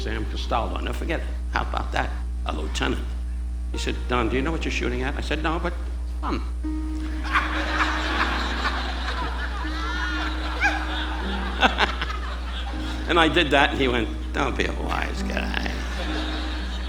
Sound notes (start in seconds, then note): 6.2 audience laughing; 10.9 Don laughing